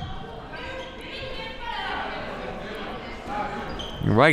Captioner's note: crowd murmuring